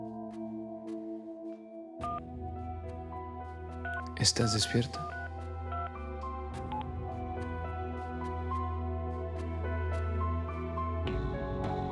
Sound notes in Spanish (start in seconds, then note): 2.1 Sonido al mandar un mensaje